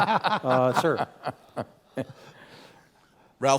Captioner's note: laugh